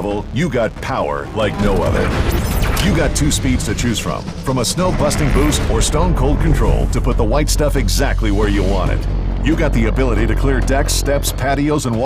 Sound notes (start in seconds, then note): 2.4 machine whirling